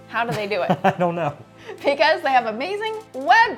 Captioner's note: chuckles